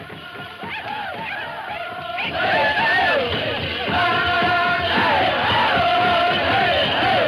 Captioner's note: drum music; men chanting